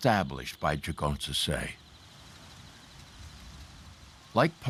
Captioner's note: corn rustling